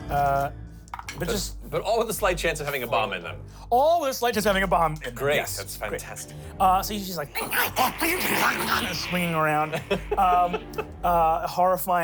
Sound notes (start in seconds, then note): 7.2 grunts; 10.7 laughs